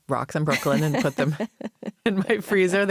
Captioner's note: laughs